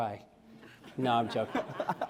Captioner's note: laughter